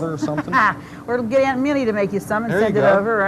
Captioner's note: laughs